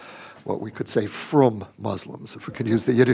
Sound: speaking yiddish

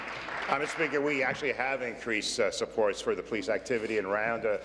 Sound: applause

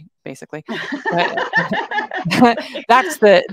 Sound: chuckles; laughs

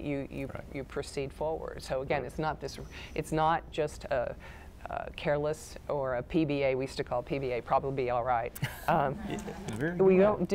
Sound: laughter

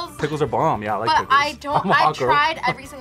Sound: laughs

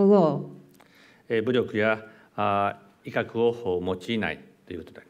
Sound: speaking japanese

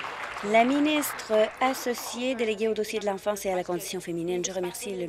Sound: applause

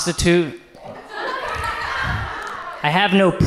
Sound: audience laughs

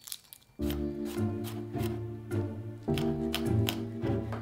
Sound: knife chopping

